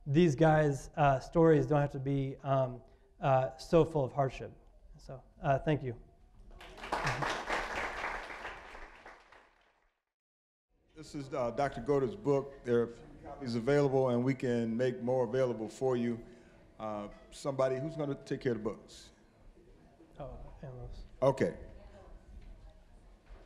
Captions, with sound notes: these guys' stories don't have to be so full of hardship. So thank you. (applause) >> This is Dr. Goedert's book. There are few copies available, and we can make more available for you. Somebody-- who's gonna take care of the books? >> Oh, Ann Lois. >> Okay.